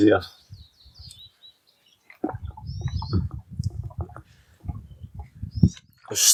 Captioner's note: birds tweeting; glugging sounds